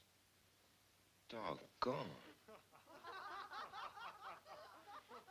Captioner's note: people laughing